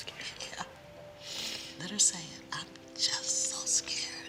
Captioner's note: sniffles